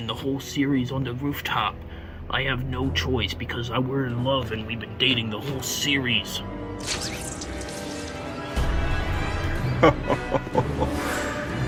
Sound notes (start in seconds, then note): 6.8 thwip; 9.8 evil laughing